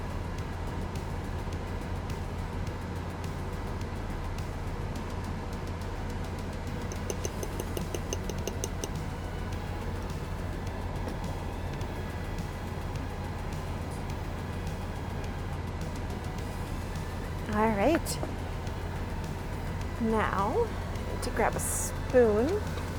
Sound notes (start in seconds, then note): 0.2 soft upbeat music; 6.8 spoon tapping